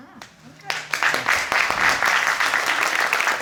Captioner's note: applause